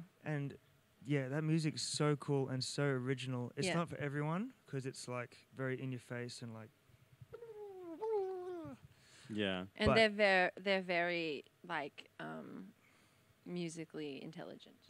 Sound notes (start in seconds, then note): 7.0 imitates music